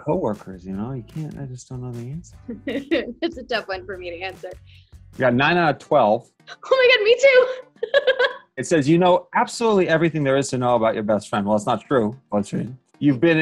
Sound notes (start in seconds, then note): 7.7 she laughs